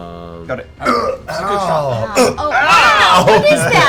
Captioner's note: grunts